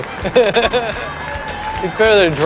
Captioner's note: laughs